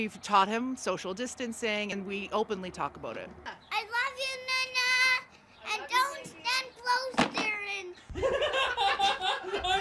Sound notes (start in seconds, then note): 4.6 laughs; 8.1 laugh